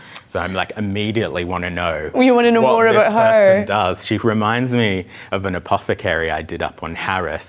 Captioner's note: none